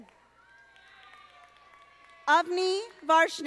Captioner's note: audience applauding